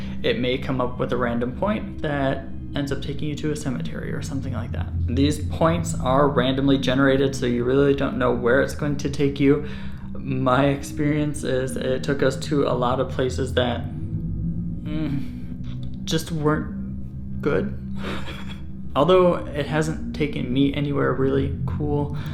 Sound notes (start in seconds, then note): 17.9 laughs